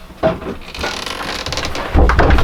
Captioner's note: door creaking